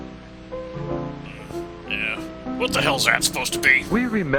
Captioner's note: as dad, gruff; grunt